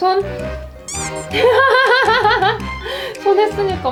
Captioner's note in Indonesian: tertawa